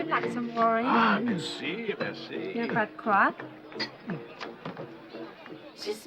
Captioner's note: speaking foreign language